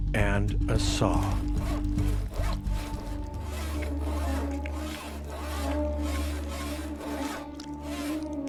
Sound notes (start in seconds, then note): 2.3 eerie music; 2.3 saw cutting